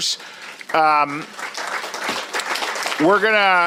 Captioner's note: applause